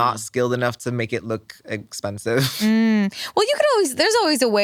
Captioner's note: chuckles